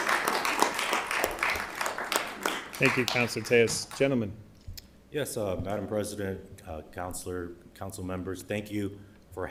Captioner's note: applause